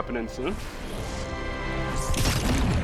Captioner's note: whirring; buzzing, whirring